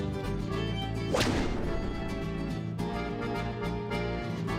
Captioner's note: swat